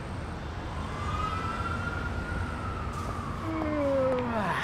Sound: siren wailing; yawning

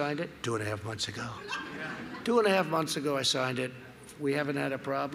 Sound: laughter

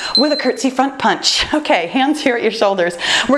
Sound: timer beeps

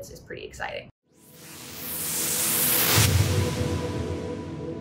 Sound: whooshing

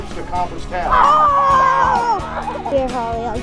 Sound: children Cheering

